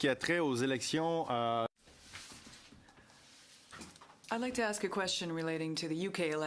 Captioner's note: speaking French